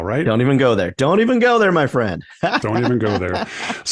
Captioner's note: chuckles